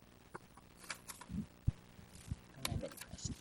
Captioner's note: paper rustles